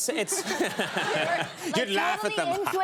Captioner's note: audience laughing